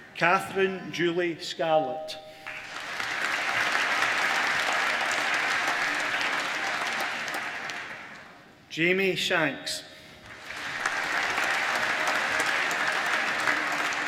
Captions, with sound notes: Catherine Julie Scarlett (APPLAUSE) Jamie Shanks (APPLAUSE)